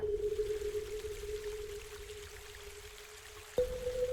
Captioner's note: water flowing